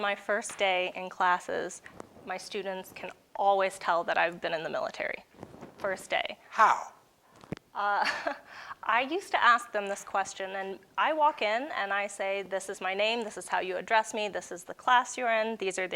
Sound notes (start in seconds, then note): 8.1 laughs